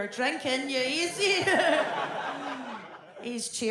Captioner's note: audience laughs